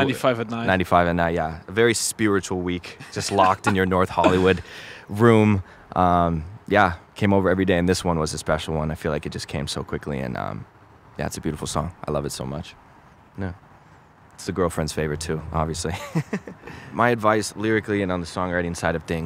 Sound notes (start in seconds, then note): 16.0 laughs